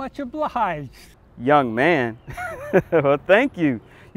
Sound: laughs

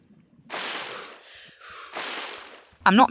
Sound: breathing

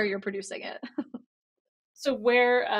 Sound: laughs

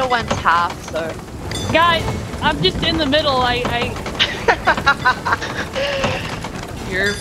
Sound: laugh

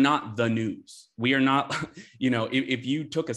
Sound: chuckles

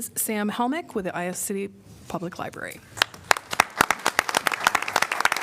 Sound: applause

